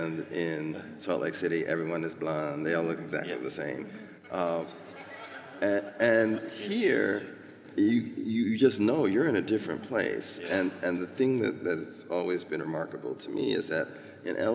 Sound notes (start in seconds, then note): 4.2 laughter